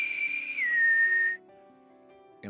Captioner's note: whistling